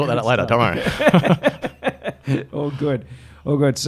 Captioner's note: laughing